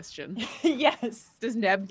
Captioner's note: laughing